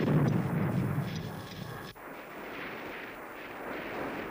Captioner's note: torpedo explodes